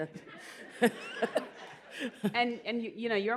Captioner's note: laughter